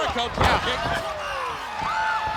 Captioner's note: crowd cheering; blows thudding; body thudding